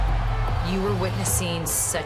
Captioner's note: crowd cheering